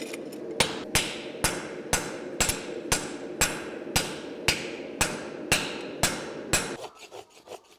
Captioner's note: metallic hammer blows